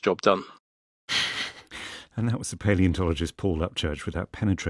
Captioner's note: laughs